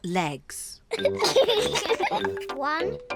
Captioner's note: both giggle